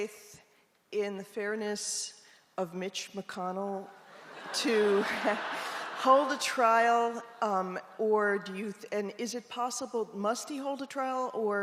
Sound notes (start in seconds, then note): 4.1 audience laughs